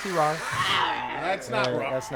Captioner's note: roaring